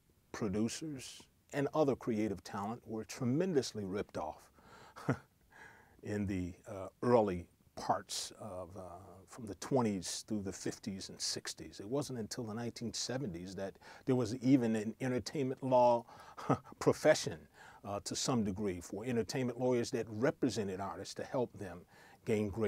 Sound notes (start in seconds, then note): 5.0 laugh